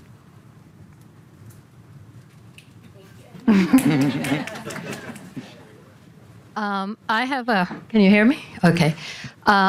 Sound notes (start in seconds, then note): 3.4 audience laughing